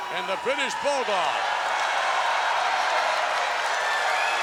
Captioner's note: crowd cheering